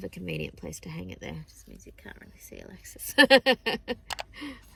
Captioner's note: chuckles